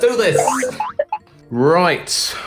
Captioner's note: spring boinging